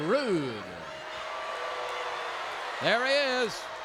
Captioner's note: crowd boos